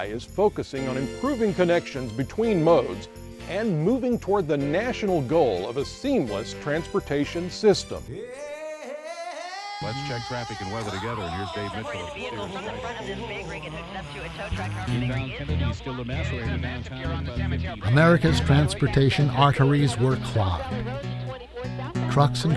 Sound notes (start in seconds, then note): 8.0 blues music; 8.0 radio traffic reports